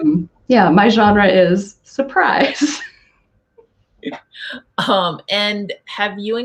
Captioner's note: laughing